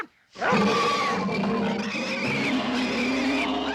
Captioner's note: loud roaring